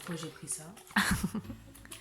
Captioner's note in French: rires